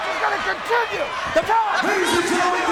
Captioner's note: crowd chatter